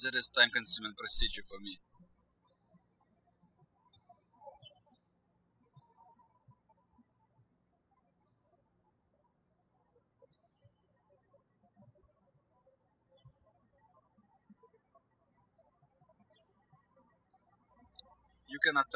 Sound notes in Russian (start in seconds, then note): 3.0 птички щебечут